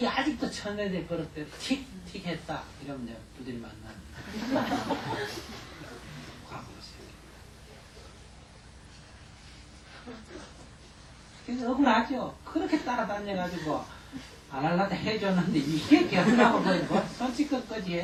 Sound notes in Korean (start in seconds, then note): 4.2 청중 웃음